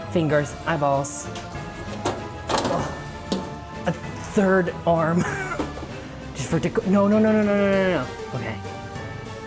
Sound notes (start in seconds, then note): 2.1 dramatic music; 5.2 chuckles